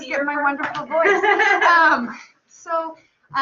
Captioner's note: laughter